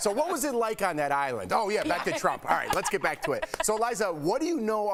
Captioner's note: laughter